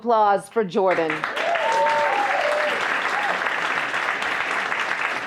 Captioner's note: applause